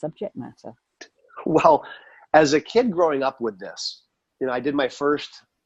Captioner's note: laughs